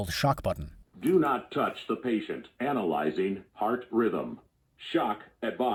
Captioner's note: computerized Voice